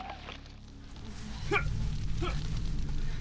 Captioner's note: man grunting